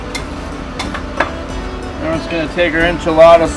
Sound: spatula clutters on grill

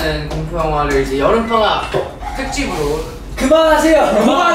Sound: ring ring

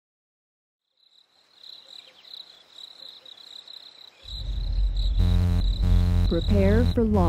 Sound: crickets chirping... rocket launch

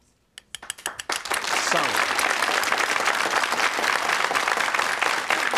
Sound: audience applauding

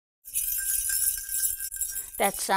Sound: bells

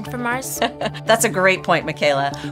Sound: laughing

